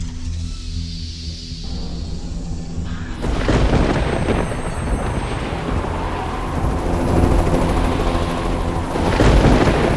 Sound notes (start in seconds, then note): 3.1 thunder crashes; 3.2 helicopter whirring